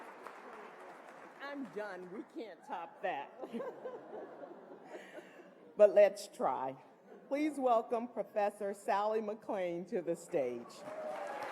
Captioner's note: applause